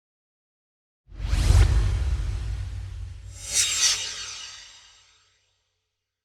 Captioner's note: swoosh